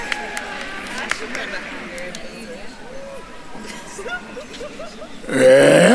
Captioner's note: attendees applauding; attendees chattering